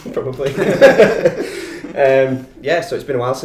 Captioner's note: laughter